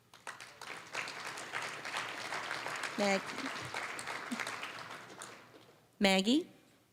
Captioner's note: applause